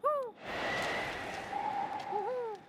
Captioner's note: wind howling